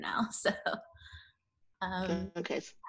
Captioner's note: chuckles